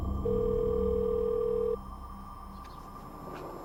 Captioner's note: phone rings